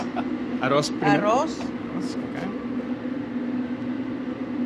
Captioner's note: laughing; speaking in foreign language